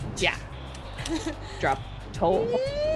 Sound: laugh

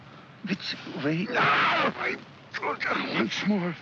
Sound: Felix cries out

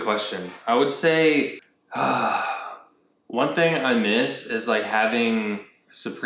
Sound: deep breath

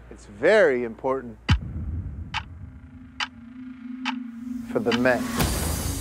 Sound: clock ticking

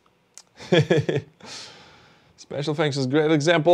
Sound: laughs

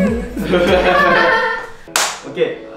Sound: laughs

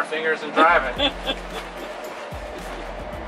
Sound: laughs

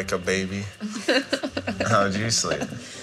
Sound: laughs

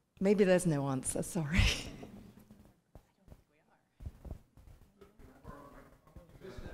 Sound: laugh

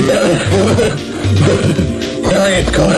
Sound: painful coughing

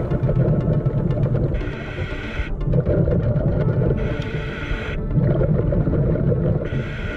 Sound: tense music; water bubbling; scuba mask hissing

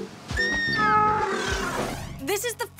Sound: deer shriek

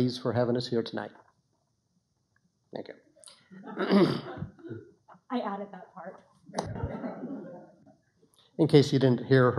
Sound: laughter

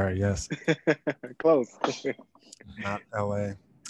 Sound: laughs

